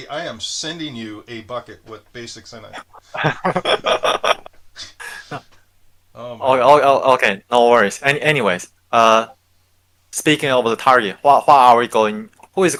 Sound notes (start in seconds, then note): 2.7 all laughing